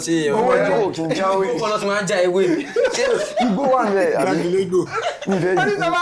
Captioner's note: laughs